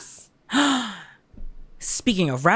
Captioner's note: gasp